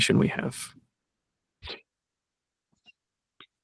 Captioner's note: sniffs